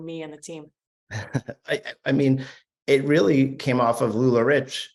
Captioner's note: chuckles